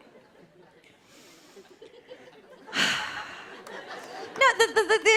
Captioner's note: inhales, exhales deeply